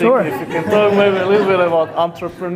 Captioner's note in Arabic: يضحك